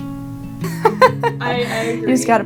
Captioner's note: laughs